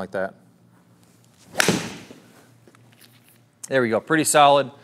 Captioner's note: golf club smacking ball